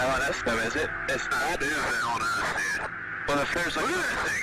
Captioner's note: pilots talking over each other on radio